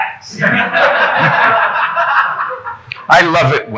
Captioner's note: audience laughing